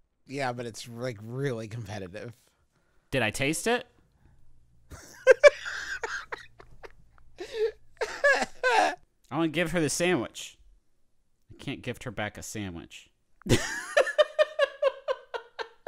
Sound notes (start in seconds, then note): 4.8 laughing; 13.4 laughter